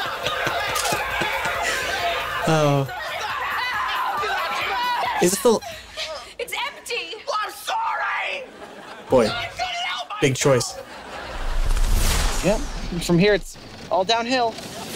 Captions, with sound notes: [laughing] Oh... [screaming] - Is this the... - It's empty! I'm sorry! - I couldn't help myself! - Boy, big choice. Yep, and from here it's all downhill.